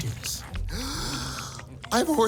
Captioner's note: deep breath before speaking very quickly